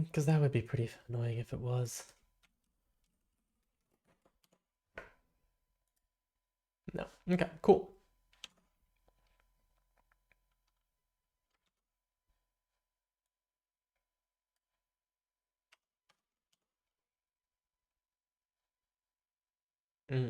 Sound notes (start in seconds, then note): 1.9 silence; 8.8 silence